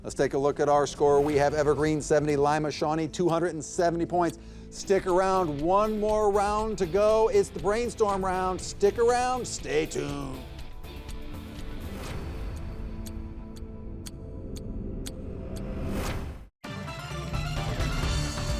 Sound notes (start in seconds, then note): 10.6 gentle music; 12.2 clock ticking; 16.6 bright music